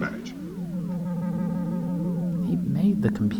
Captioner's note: electronic whirring